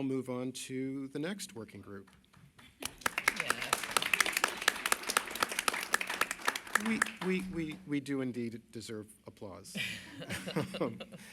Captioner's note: applause